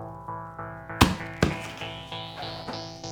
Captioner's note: pounding